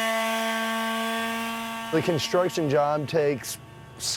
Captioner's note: sander running